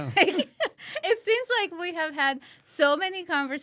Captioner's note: laughs